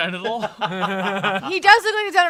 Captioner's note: laugh